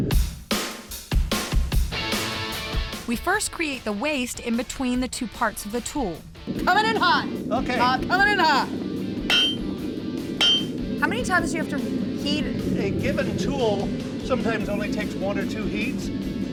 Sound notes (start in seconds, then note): 10.4 metal clanging